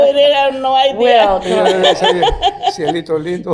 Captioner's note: laughing